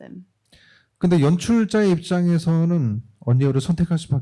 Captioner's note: speaking korean